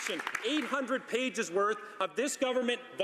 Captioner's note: some Applause